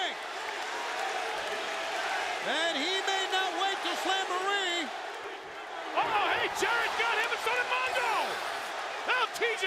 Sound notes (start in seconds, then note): 2.0 crowd cheering